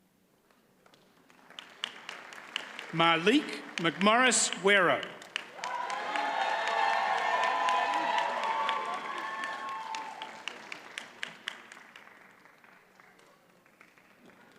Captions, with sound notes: (audience applauds) Malik McMorris-Guerrero. (audience cheers and applauds)